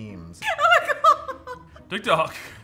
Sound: laughing

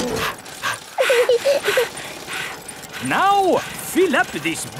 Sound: daddy pig panting; mummy pig panting; peppa chuckles; chuckles

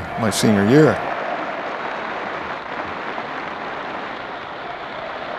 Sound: applause

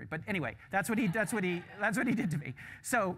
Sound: laughter

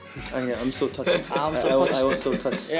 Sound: laughs

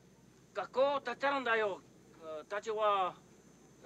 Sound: speaking Japanese

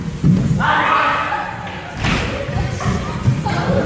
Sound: explorer screams of joy

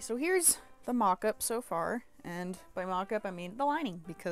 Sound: none

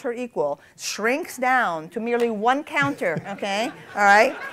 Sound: laughter

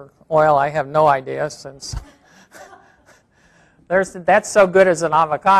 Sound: laughs

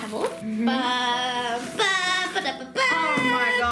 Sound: humming Star Wars theme

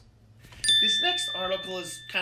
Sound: ding

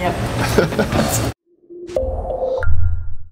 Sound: laughs

